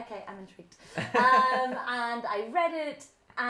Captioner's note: laughs